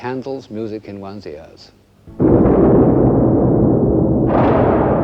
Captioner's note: thunder